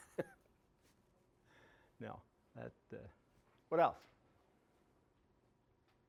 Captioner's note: laughing